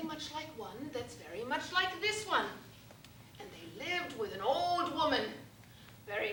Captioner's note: none